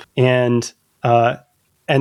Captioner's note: uh